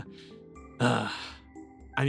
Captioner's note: sigh